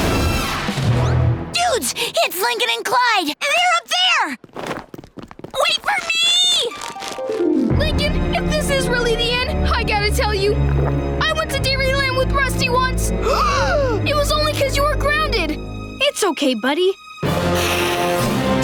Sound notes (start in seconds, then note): 13.2 gasping